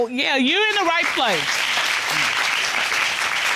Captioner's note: audience applauds